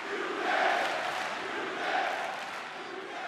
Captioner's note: crowd cheering